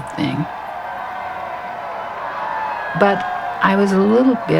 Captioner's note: cheering